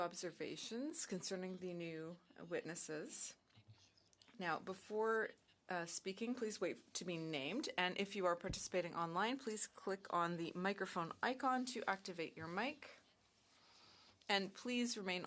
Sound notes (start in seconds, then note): 4.1 speaking in French